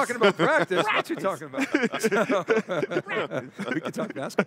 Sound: chuckling

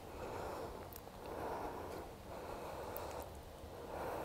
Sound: breathing deeply

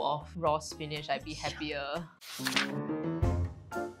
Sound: none

